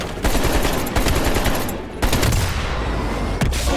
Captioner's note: guns banging